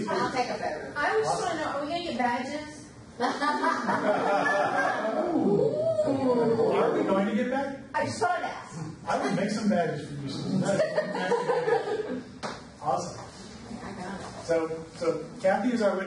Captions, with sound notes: - Yes, please, please. - I just want to know, are we gonna get badges? (group laughs) - Are we going to get badges? - I saw that. - I will make some badges for you. Awesome. So Kathy is our witness, right?